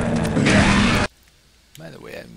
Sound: gunfire and monster roars

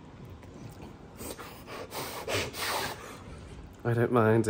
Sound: muffled Crying

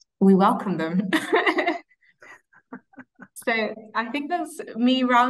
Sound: laughing

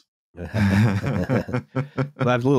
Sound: laughter

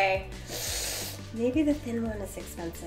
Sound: inhales

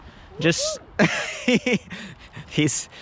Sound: laughs

